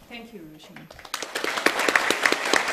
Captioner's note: applause